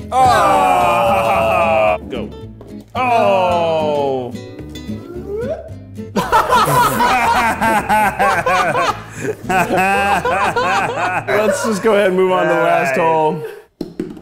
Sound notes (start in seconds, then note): 6.1 laughing